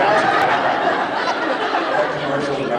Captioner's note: laughs